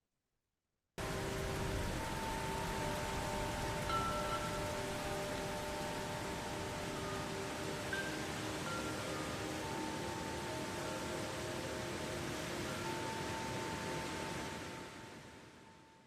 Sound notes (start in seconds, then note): 2.1 gentle music; 2.1 rain pattering